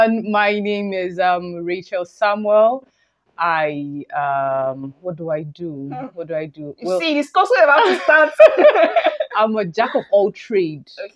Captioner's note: laughter